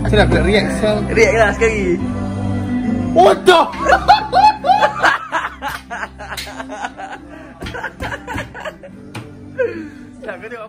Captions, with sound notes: how i should i react? do that reaction again! ***! [laugh]